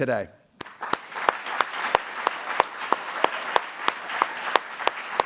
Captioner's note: audience applauding